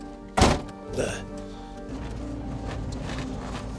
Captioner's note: door thuds